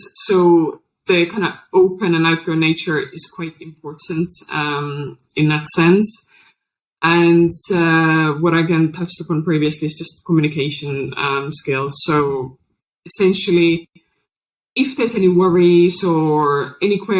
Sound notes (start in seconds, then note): none